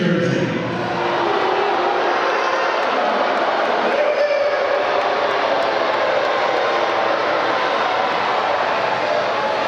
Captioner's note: applause